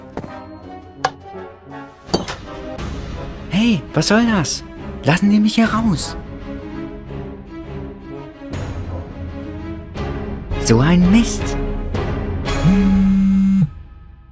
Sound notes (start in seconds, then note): 3.9 calling; 12.6 mobile phone vibrating